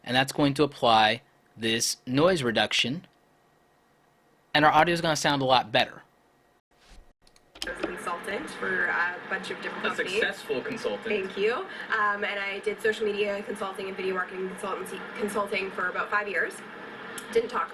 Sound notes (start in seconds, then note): 10.3 male Voice